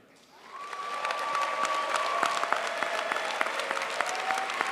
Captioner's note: crowd applauds